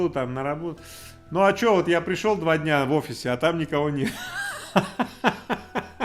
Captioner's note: laughs